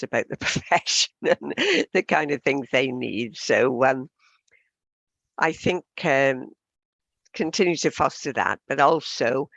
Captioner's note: laughs